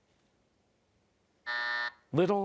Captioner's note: buzzer